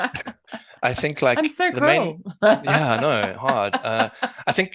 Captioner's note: laugh